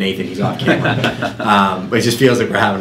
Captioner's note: laughs